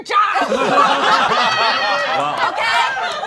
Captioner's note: all laughing